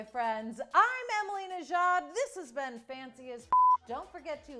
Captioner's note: beep